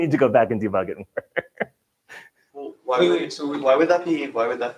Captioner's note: laughing